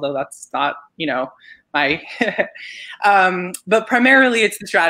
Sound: chuckles

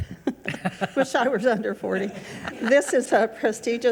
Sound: chuckles; laughing

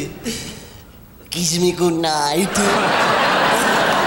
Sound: audience laughing

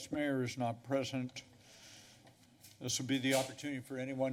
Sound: pause

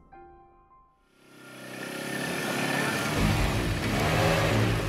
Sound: motor revving

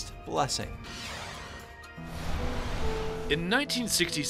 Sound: whooshing

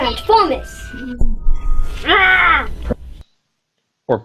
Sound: roars

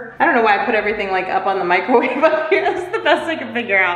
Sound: laughs

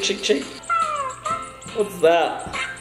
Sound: squeaking

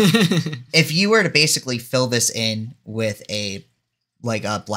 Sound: laughs

